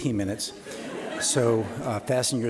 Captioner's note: audience laughing